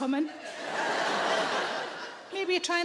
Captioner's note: audience laughing